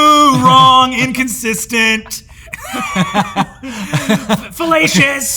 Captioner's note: Brennan and Hank laugh